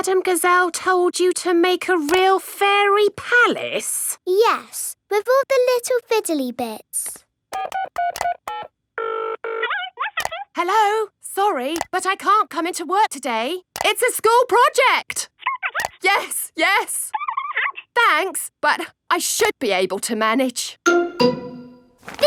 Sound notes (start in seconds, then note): 7.5 dials phone; 9.6 on phone